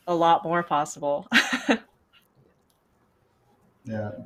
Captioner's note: laughs